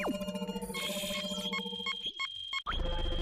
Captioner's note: beeping